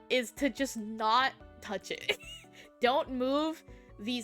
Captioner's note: giggling